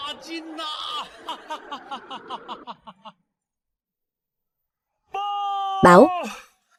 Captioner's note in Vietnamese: Tiếng cười